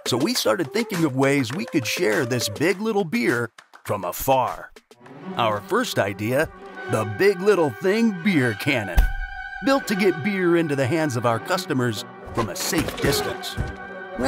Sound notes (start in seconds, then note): 5.0 suspenseful music; 12.3 bike crashes